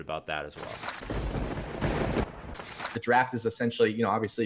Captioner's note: thunder